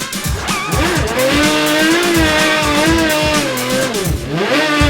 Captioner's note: upbeat music; engine revving